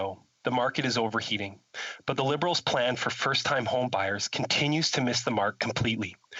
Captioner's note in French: voix de l'interprète